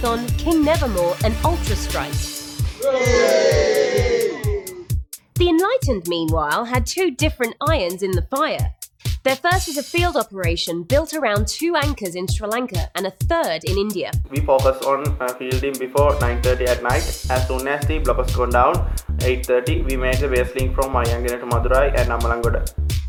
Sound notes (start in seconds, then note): 2.8 cheering